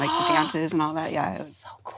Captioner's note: gasps